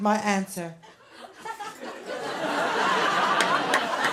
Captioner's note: laughter